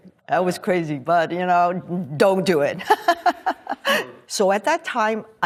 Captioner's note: laughs